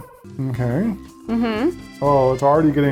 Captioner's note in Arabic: رنين لحني